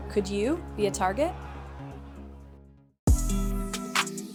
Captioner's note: shouting